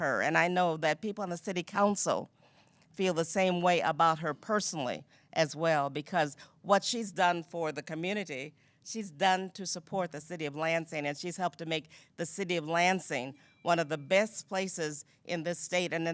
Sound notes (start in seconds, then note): 13.6 bell dinging